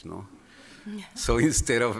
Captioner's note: laughter